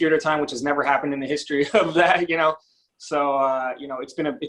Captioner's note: chuckles